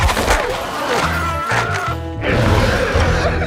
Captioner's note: screaming